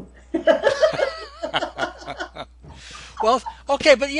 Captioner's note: laughing